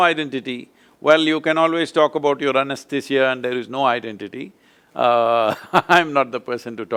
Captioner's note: laughs